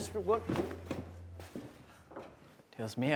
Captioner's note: Zeke stomping